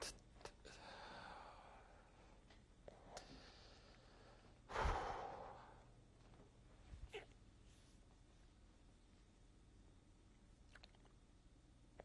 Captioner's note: pauses for 3 seconds; sighs